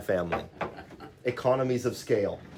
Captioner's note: laughs